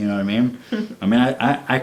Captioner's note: laughs